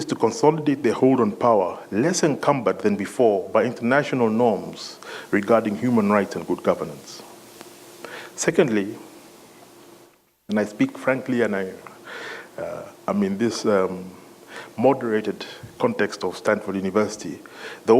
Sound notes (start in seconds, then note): none